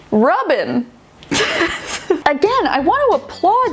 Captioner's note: laughing